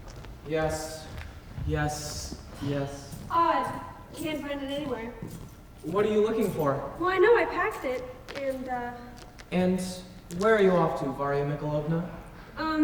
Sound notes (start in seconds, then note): 2.0 footsteps enter with keys jingling